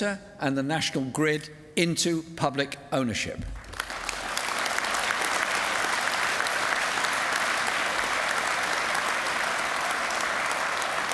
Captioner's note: applause